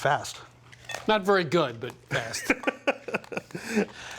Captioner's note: laughs